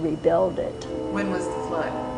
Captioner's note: train whistle